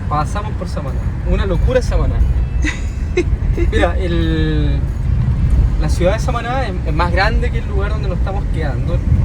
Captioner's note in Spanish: risas